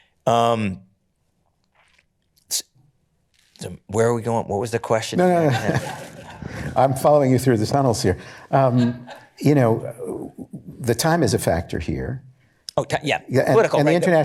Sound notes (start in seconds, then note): 5.2 laughter